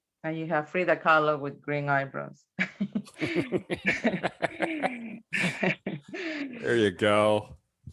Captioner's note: laughter